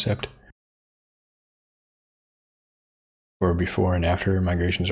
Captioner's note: blank Audio